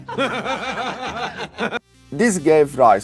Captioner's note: laughing